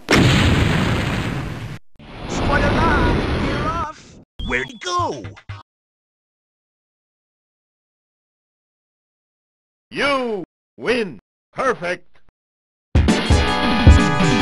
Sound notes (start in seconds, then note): 2.3 another nyoom